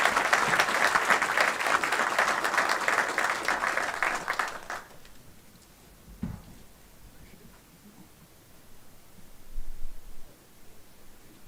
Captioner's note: applause